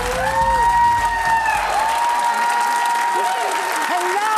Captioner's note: cheering